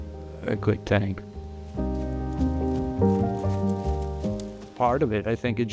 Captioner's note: leaves crunching